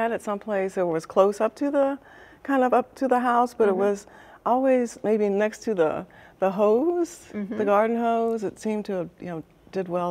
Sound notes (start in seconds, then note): none